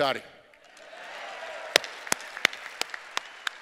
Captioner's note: cheers and applause